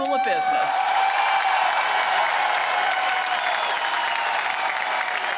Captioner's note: cheers and applause